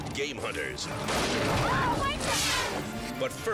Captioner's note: rifle blasts